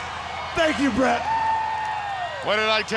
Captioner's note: audience cheers